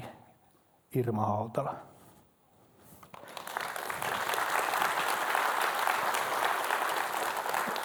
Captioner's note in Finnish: Aplodeja